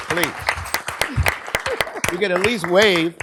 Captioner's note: applause